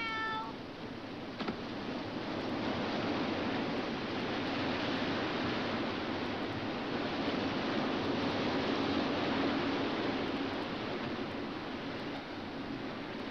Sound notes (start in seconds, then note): 0.8 body thuds; 1.8 water splashes